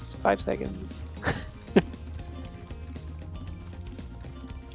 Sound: timer dings

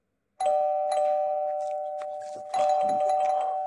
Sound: doorbell ringing

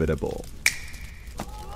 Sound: snaps; audience goes crazy

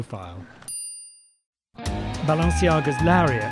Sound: dinging

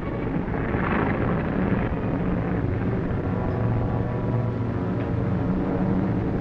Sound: engines droning; tense music

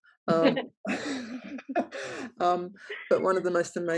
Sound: laughs

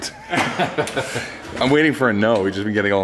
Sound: laughter

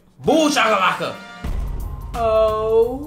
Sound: trumpet fanfare; dramatic bang

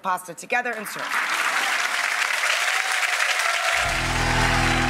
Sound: audience clapping

